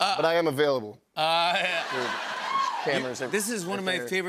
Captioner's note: laughter